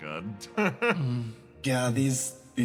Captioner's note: laugh